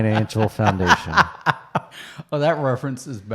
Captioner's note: laughs